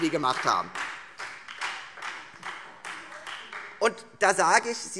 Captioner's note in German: Beifall Freie Demokraten, SPD und DIE LINKE